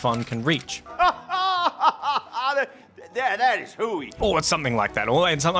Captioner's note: laughing